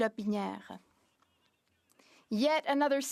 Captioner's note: speaking in French